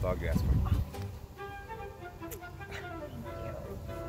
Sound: kissing noise

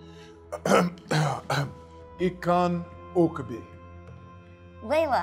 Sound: clearing throat

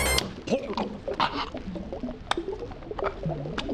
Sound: fish out of water but underwater noises

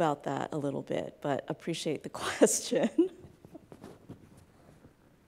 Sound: laughs

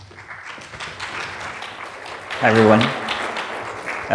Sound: audience clapping

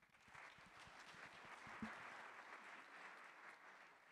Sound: audience applauding

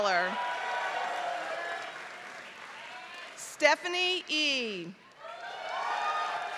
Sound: applause

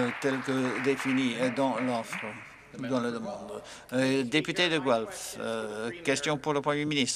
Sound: applause

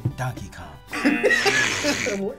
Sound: buzzer; both laugh; buzzer barks

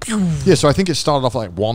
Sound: imitates falling rocket

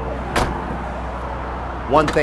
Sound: door slamming

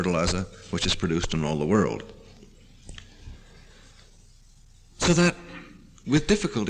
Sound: pause

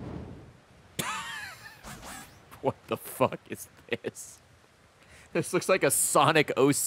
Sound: laughs

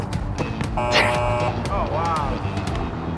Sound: buzz

